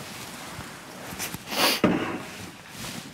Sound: he sniffs

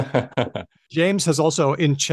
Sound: laughs

